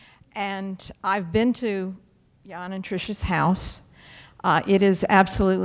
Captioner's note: none